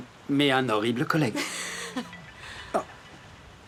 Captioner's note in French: sonnerie de téléphone